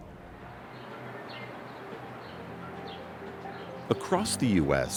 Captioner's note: birds chirping